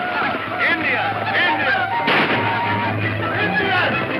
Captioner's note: gunshot